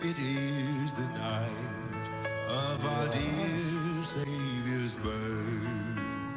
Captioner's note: voice crack